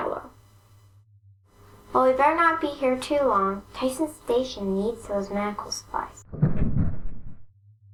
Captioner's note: rumble!